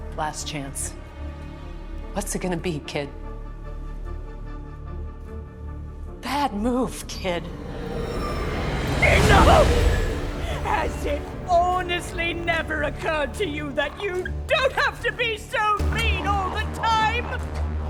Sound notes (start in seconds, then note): 7.3 whooshing